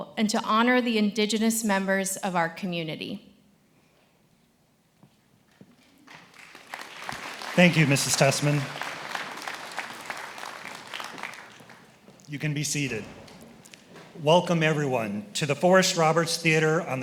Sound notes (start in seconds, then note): 10.2 attendees applauding